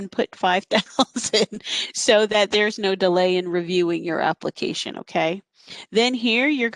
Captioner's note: laughter